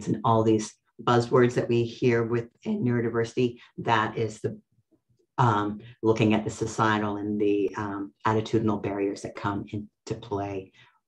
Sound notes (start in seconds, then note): none